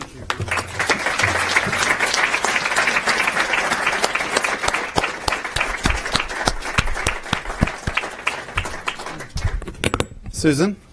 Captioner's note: applause